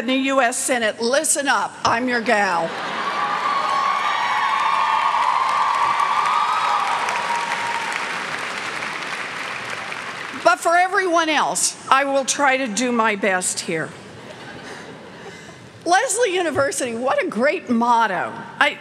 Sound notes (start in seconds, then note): 2.6 laughter; 2.8 cheers and clapping